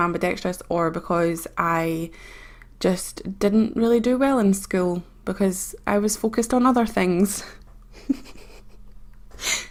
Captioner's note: laughs